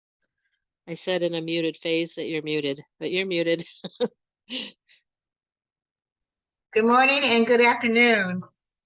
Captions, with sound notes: I said in a muted phase that you're muted, but you're muted. (laughs) - Good morning and good afternoon.